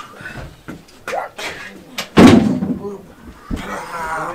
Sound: Jason grunts

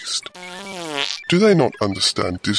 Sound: passing wind

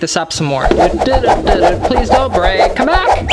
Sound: air whooshing

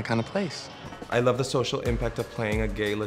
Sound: voiceover

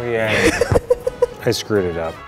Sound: laughs

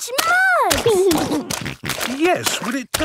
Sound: snorting

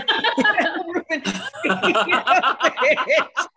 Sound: laughter

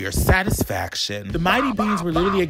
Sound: Beanz grunting

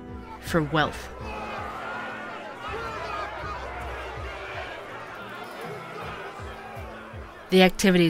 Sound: sounds of crowd

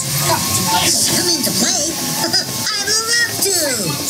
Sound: laughing

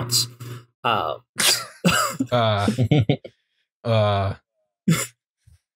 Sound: laughter

